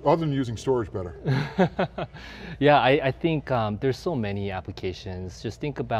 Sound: laughs

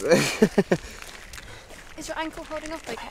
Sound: tourist laughs

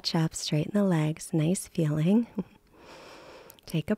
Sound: chuckles

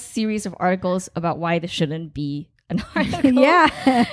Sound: laughing; laughs

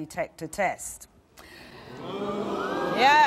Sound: crowd moaning

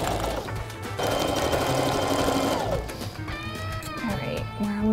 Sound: sewing machine whirring

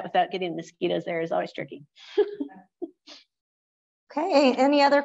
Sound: laughs

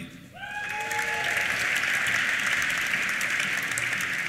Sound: cheers; applause

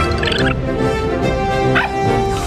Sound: chirping; barking

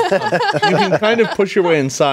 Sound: all laughing

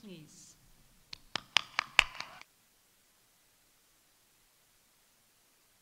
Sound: audience applauding

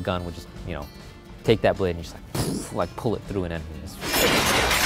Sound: explosion noise

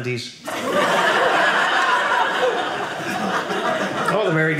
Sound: audience laughing

